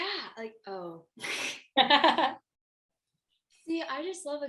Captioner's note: laughter